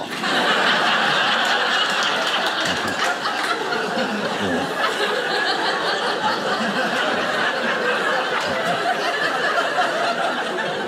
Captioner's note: audience laughing